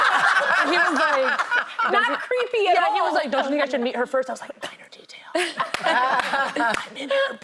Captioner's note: laughter